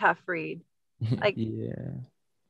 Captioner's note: snickers